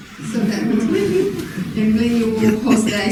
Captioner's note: congregation laughing